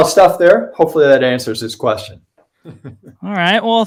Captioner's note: laughs